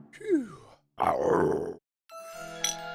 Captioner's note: growl; intriguing music